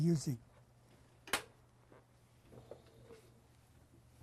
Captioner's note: pauses for 6 seconds